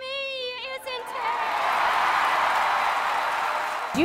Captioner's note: cheering and applause